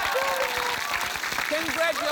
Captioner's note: cheering, applause